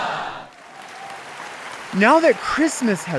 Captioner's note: audience applauds